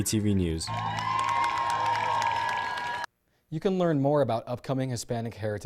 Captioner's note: applause